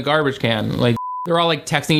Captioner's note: beep